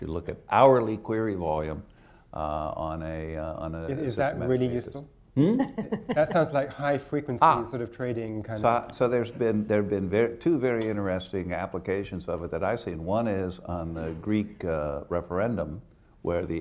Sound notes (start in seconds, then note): 5.4 laughs